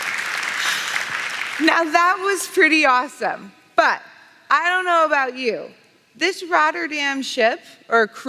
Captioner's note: applause